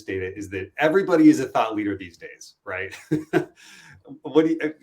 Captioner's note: chuckles